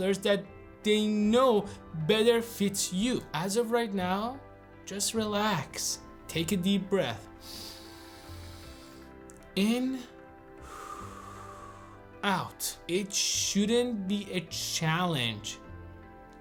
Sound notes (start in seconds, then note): 7.4 inhales; 10.5 exhales